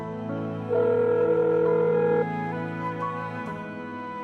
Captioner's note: phone ringing